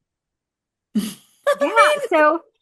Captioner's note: laughs